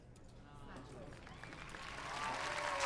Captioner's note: applause